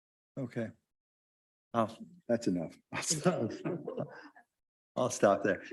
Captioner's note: chuckles